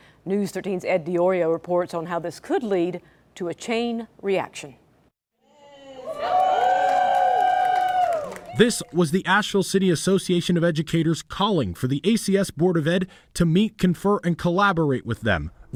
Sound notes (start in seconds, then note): 5.7 cheering